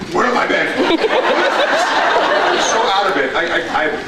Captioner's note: laughs